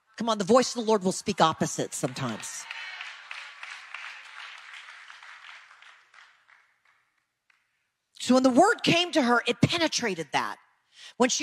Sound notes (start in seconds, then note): 1.8 audience applause